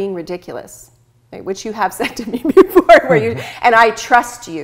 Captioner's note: laughs